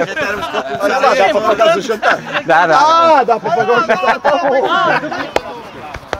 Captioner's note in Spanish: Se ríe